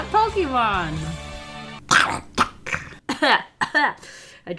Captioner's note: coughs